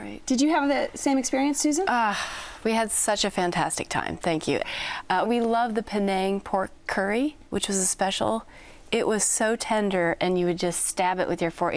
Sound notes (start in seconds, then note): 2.2 sighs